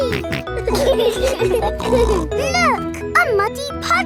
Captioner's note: laughing